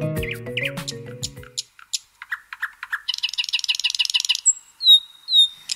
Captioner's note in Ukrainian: спів пташок